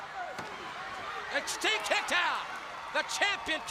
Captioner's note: crowd chatters